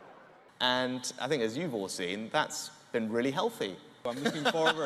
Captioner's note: he laughs